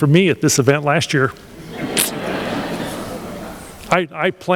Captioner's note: laughter